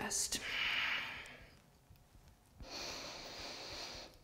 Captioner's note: deep breath